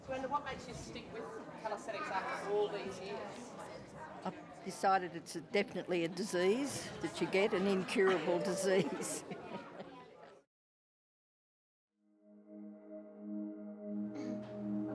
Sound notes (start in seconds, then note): 10.7 laughs; 12.1 soft dramatic music